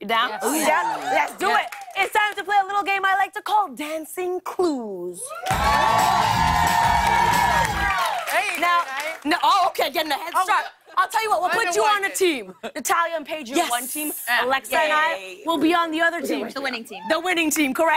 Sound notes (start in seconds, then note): 5.3 cheers and applause